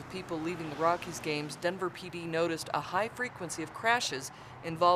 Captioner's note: sounds of cars driving on road; sounds of vehicles driving on road